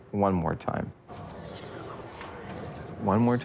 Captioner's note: arcade ambience